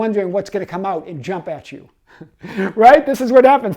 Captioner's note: giggles